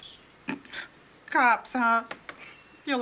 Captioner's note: snorts